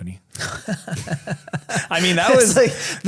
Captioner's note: giggles